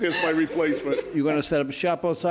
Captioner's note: laughing